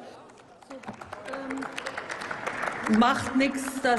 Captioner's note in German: Applaus